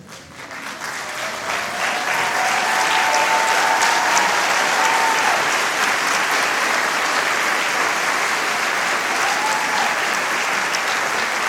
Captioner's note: applause